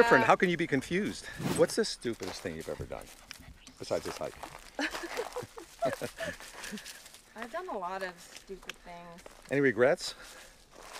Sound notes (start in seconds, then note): 4.7 Lindsey laughs